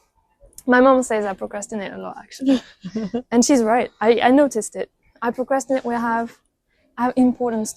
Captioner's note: laughs